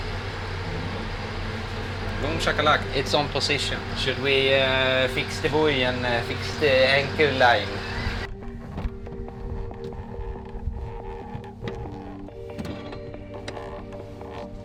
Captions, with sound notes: (speaking foreign language) It's on position, should we fix and fix the anchor line?